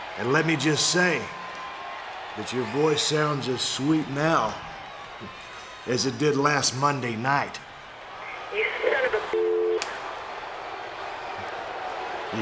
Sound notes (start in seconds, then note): 9.3 dial tone; 10.2 audience booing